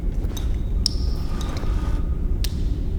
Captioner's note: distant breathing